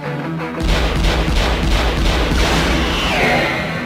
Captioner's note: shots ring out